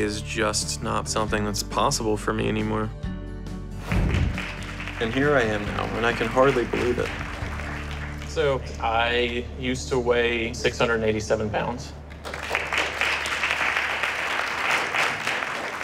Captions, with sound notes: is just not something that's possible for me anymore. And here I am now. And I can hardly believe it. So I used to weigh 687 pounds. [APPLAUSE]